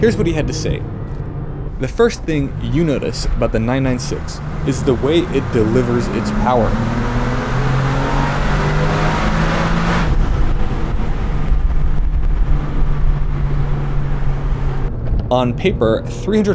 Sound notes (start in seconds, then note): 7.5 engine roar